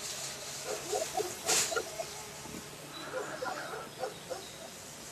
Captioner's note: dog barking